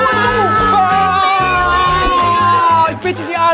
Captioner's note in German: Jubel